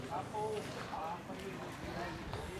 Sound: bubble of voices from the celebrants

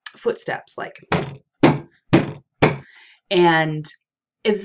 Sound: banging

